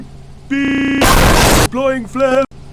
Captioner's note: helicopter violently crashes